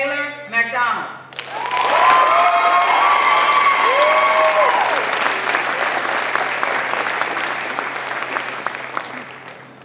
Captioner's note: applause